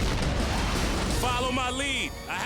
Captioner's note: explosions